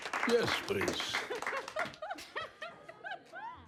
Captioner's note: laughter